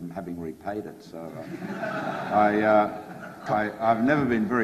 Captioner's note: audience laughs